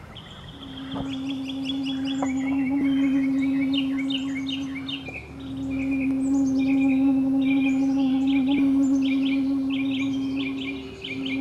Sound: humming

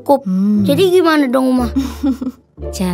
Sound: laugh

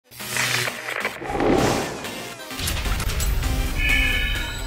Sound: sound Effects

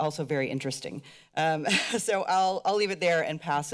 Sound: laughter

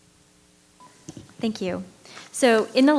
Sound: microphone beeping

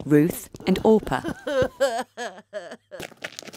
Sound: Naomi sobbing

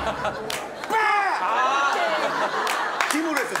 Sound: screaming

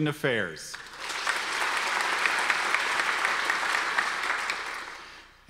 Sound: audience applause

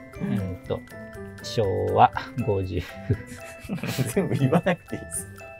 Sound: laughing

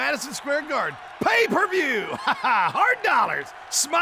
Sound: chuckling

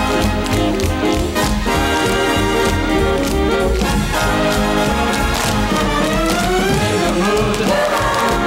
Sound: tap dancing

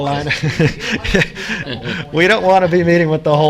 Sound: chuckles

